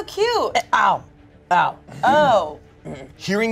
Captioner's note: clears throat